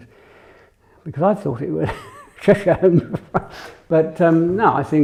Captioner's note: laughs